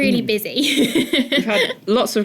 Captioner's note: chuckles